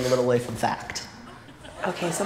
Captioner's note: laughter